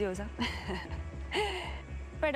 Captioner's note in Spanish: ríe